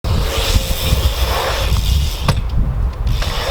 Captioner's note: wheels whirring